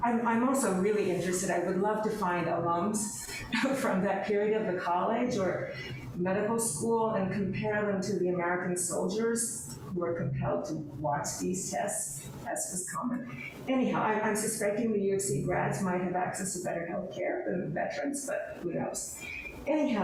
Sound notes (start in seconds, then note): 3.1 laughs